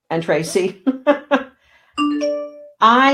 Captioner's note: laughing